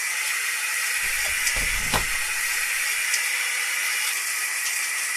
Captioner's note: door latch clicking